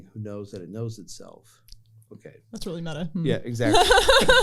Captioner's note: laughter